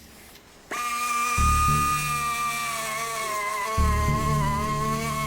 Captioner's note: instrument drilling